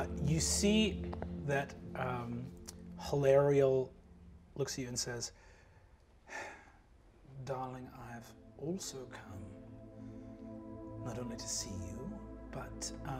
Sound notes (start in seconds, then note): 6.3 sighs